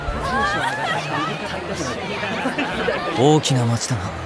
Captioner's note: crowd talking